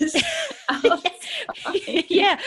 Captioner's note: laughter